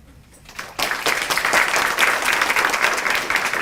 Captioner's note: applause